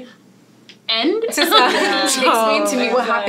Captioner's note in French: rires